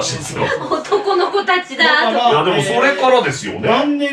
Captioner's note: laughs